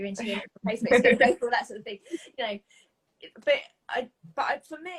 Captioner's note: voice drowned by laughing